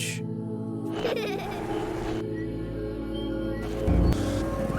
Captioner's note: child laughing; birds singing